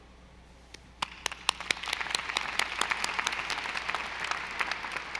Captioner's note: audience applauding